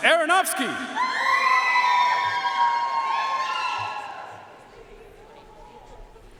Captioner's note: audience cheering and applauding